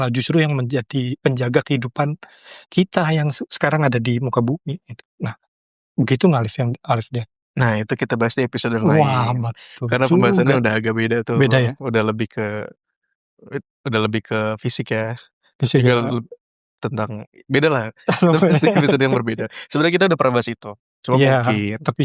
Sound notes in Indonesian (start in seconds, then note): 17.6 tertawa